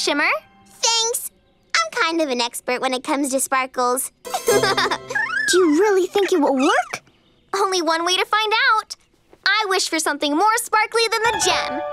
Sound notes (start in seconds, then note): 4.4 laughing